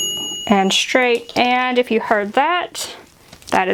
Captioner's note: oven dinging